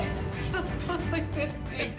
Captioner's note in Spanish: Risas